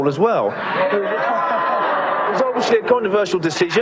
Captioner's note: audience laughs